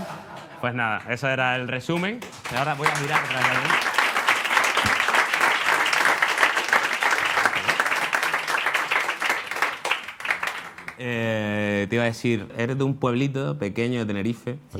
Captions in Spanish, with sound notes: Pues nada, eso era el resumen. (Aplausos) Te iba a decir... Eres de un pueblito pequeño de Tenerife,